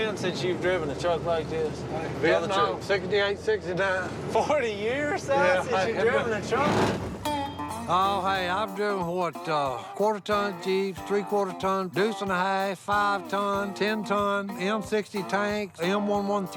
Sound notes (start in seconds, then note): 6.5 grinding gears